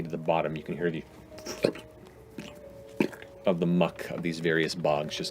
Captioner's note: thick bubbling